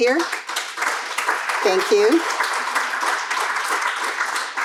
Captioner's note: crowd applauding